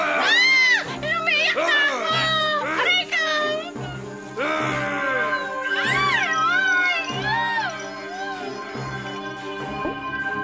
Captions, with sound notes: [screams] I’m already crying. Ouch. -[magic glimmering] -[Junkie grunting]